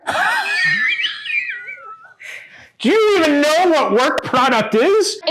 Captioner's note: laughing